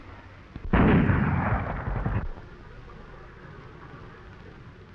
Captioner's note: gunshot banging